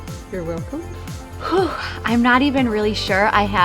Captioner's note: exhales